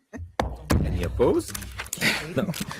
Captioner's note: board chuckles